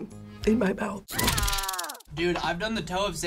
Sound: person screams

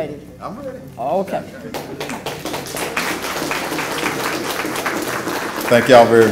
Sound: applause

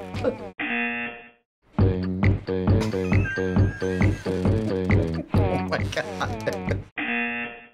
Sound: laughs; buzzer; snickers; buzzer

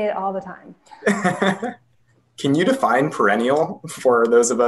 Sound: laughs

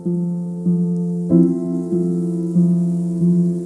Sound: rain pouring

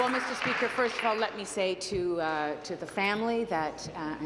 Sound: applause

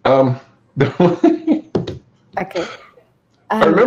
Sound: laughs

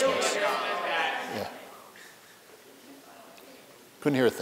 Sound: background conversations

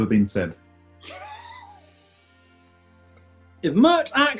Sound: giggling

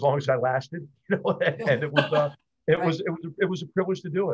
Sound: laughter

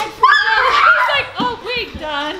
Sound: yelling

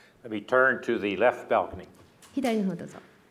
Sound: speaking japanese

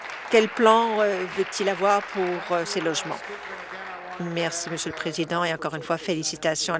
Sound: applause

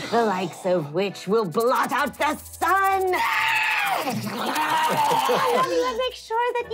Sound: skittering

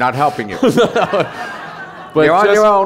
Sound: laughter

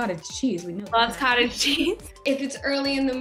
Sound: laughs

